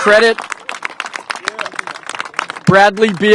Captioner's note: applause